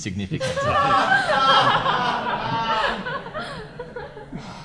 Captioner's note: audience laugh